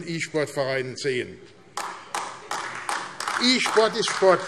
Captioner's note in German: Beifall AfD